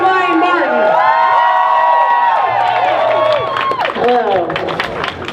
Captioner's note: crowd cheers